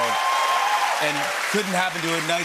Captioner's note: applause